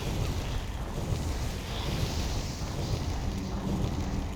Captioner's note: explosions